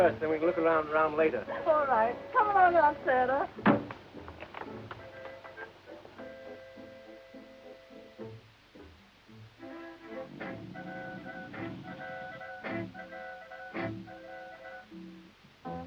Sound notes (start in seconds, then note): 1.4 Eve giggling